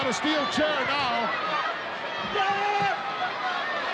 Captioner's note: crowd yelling